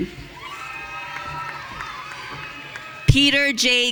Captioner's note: audience cheering